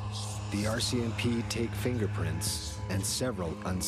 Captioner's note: voiceover